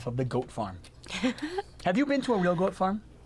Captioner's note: laughs